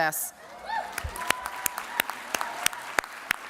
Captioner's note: applause